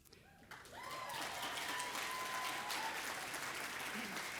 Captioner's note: audience applauding